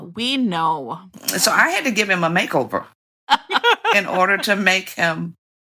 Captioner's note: laughter